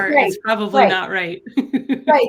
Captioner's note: chuckles